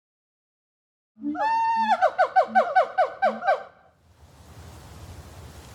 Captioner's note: laughs